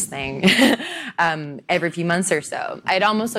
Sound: laughs

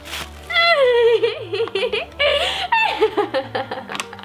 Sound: laughing

